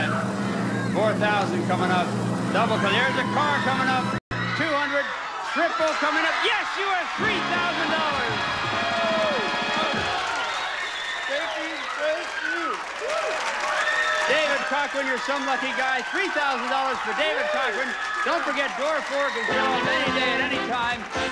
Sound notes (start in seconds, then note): 10.2 audience cheering